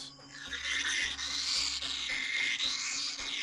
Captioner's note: screeching